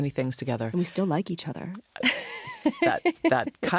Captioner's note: laughs